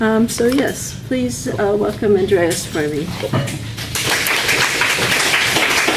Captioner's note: applause